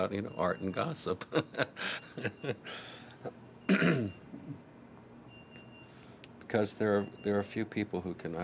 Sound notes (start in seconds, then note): 1.2 laughs; 3.6 coughs